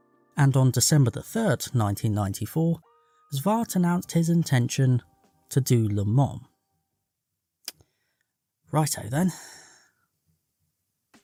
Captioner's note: sigh